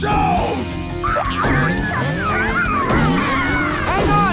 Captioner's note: screaming; thumping